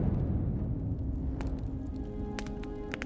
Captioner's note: flames crackling quietly